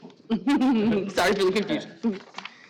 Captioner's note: laughing